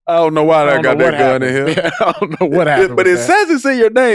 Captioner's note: chuckles